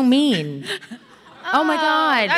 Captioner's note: audience laughing